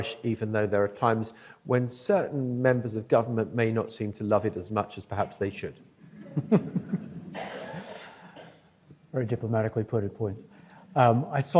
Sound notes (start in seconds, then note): 6.1 audience laughs